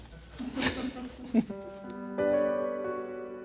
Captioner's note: crew laughs